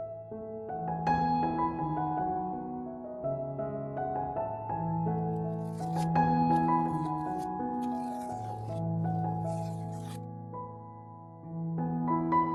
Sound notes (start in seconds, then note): 5.3 peeling off masking tape sounds